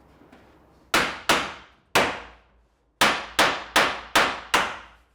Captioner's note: mallet bangs